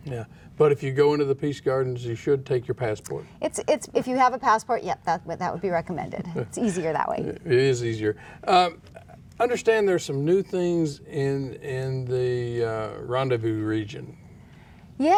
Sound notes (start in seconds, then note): 5.9 laughs